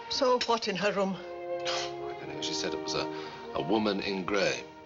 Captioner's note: scoffs